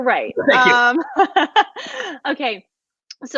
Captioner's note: laughs